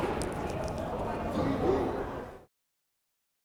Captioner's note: crowd chattering